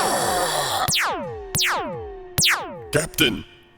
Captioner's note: blaze javelin blasts